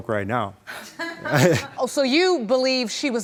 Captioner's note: chuckles